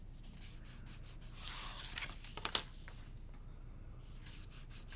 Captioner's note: paper creasing